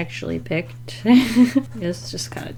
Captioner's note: laughs